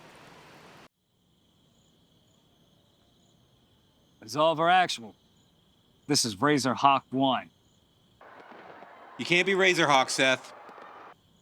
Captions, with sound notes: (insects chirping) - Absolver Actual, this is Razor Hawk One. - You can't be Razor Hawk, Seth.